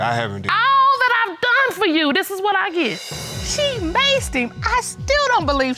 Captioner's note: none